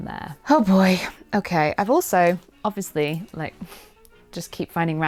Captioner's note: sighs